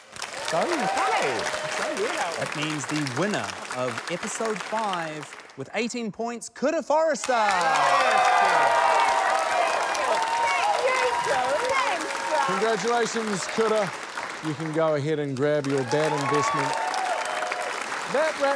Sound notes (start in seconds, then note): 5.9 cheering; 9.4 applause; 15.2 cheering